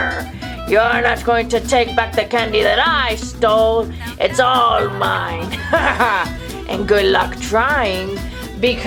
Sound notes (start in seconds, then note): 4.0 laughs